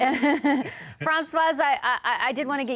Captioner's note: laughter